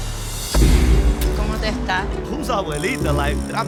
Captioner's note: speaking Spanish